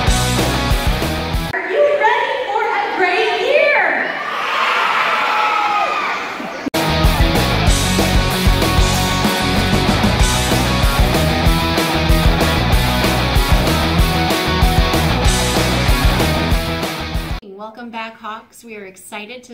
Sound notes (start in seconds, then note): 3.8 cheers